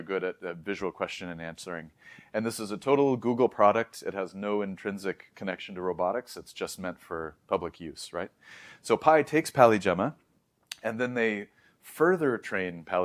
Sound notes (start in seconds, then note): 2.0 inhales; 8.4 inhales; 10.6 lips smack